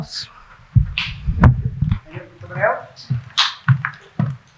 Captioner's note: murmuring